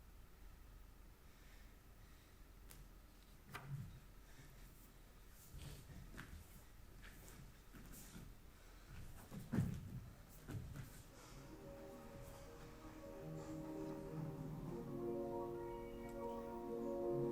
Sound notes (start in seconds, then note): 1.7 person breathing heavily; 8.9 footsteps thumping; 11.1 bright music